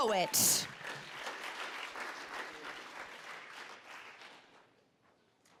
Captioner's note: applause